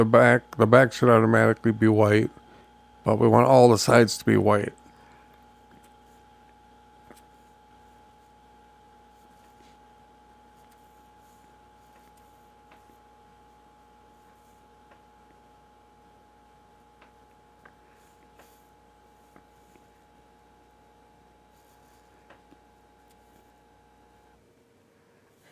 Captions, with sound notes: The back should automatically be white, but we want all the sides to be white. [Silence]